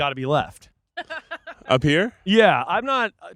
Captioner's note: laughing